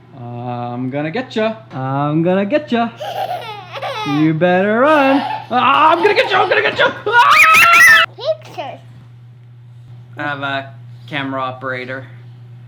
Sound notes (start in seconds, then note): 4.6 laughs; 7.1 screams